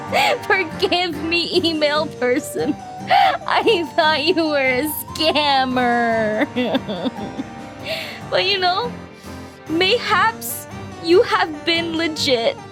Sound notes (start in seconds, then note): 0.1 inhale; 6.5 sobbing Noises; 7.7 inhale; 9.1 sniffle